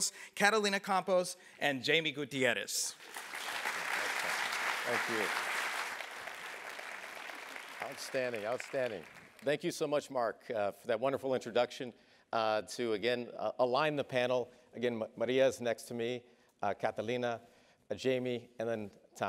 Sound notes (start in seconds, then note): 2.9 applause